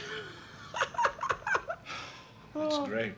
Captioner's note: laughs